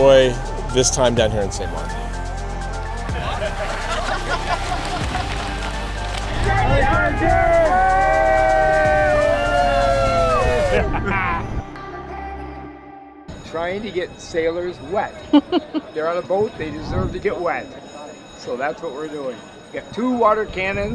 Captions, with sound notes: this time down here in St. Maarten. [Cheering] [Laughter] Trying to get sailors wet. They're on a boat. They deserve to get wet. So that's what we're doing. We have two water cannons.